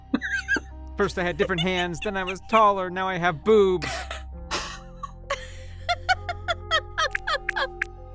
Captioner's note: laughs